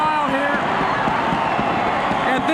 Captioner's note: audience cheering